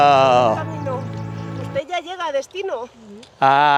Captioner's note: speaking Spanish